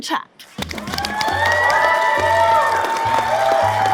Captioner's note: audience cheering